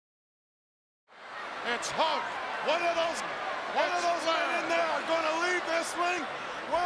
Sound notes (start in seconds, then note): 1.2 crowd roars